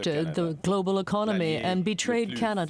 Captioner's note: speaking French